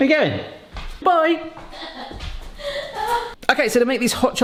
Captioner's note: laughs